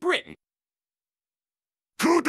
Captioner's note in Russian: немая тишина